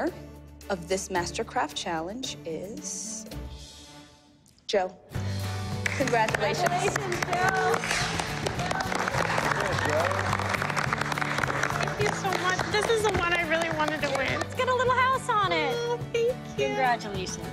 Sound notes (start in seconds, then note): 5.8 all clapping, congratulating